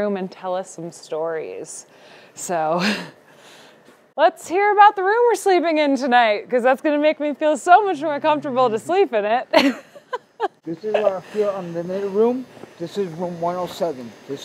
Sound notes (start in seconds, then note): 9.5 laughs